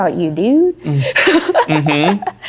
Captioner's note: laughing